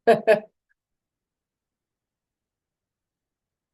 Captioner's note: chuckling